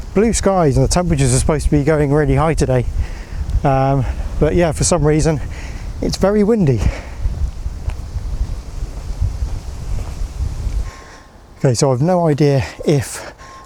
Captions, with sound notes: Blue skies and the temperatures are supposed to be going really high today. But yeah, for some reason, it's very windy. (wind blowing) Okay, so I've no idea if